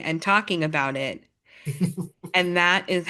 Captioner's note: chuckles and nods head